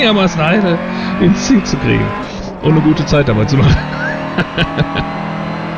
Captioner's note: laughs